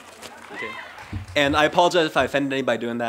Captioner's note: laughter & cheering